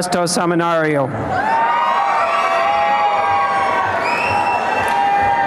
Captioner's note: applause and cheering